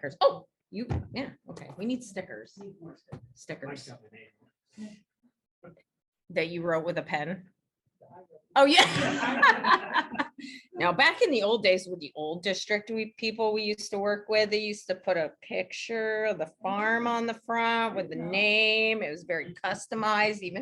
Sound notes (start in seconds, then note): 8.8 laughs